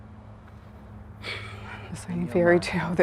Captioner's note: sighs